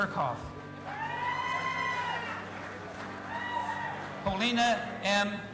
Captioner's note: audience applauding and cheering